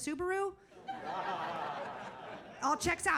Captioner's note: audience laughs